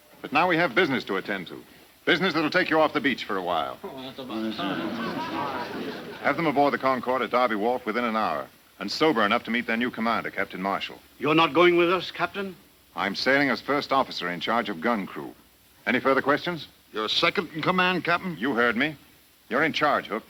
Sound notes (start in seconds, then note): 4.3 men grumbling